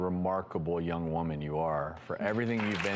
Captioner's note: clapping